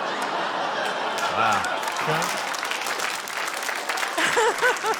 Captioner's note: laughter; applause